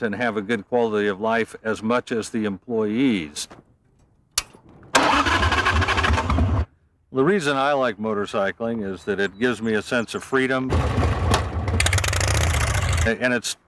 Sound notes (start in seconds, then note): 4.3 clicks; 10.7 engine revving